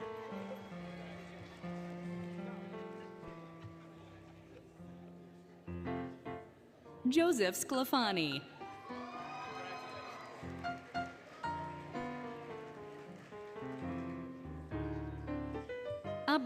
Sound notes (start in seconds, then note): 0.0 applause, Cheering, Music; 8.7 applause, Cheering, Music; 10.6 applause, Cheering, Music